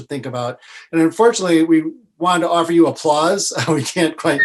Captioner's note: laughs